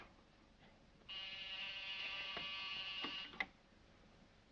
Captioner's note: phone rings